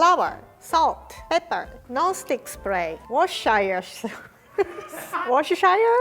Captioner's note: laughs